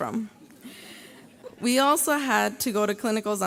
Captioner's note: graduates laugh